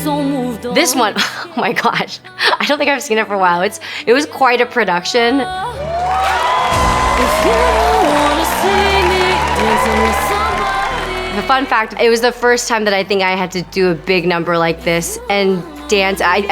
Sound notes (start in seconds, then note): 5.7 audience cheering